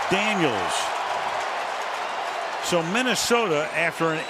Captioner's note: cheering